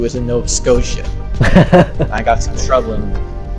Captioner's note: laughs